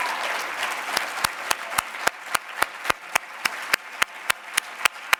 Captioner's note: everyone clapping